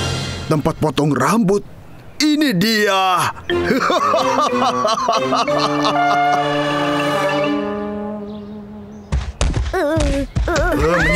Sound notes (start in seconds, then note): 3.3 laughs evilly